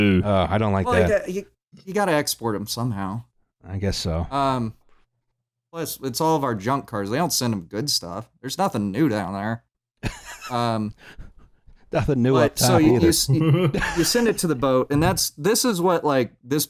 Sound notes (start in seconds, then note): 12.4 laughs; 12.7 laughter